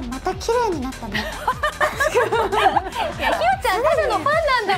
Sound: laughs

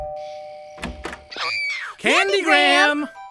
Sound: doorbell rings; screams

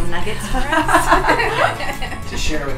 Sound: laughing

